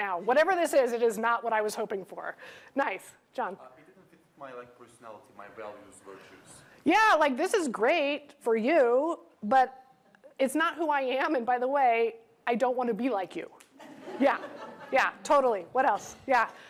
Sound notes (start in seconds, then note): 13.8 laughter